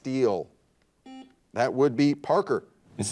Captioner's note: buzzer dings